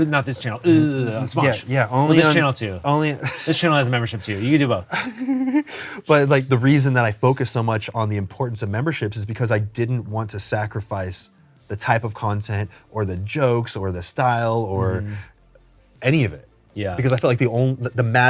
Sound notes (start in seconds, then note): 4.8 laughs